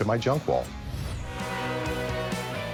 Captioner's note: train horn blaring; rock music